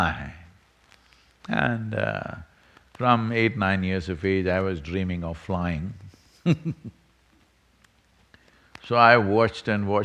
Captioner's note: laughs